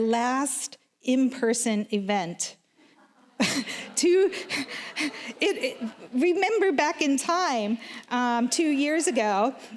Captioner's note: laughs